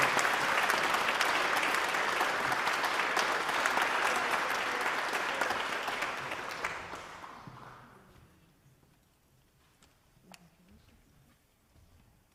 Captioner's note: applause